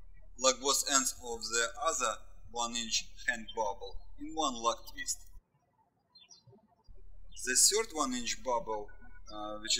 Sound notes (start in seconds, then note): 0.0 birds chirping; 5.7 birds chirping